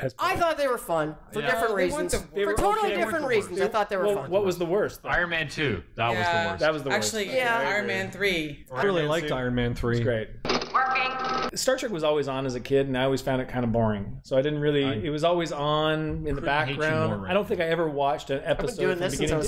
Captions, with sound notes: I thought they were fun for different reasons. For totally different reasons. I thought they were. What was the worst?- Iron Man 2. That was the worst that was the worst actually. Yeah. Iron Man three. I really liked Iron Man 3. -It was great. [Computer voice] Working! Star Trek was always on as a kid, and I always found it kind of boring, so I didn't really it was always on in the background. I don't think I ever watched an episode from beginning to end